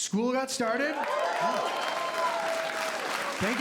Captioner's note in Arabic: هتاف وتصفيق